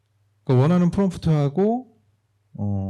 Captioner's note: speaking korean